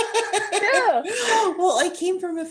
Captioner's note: laughter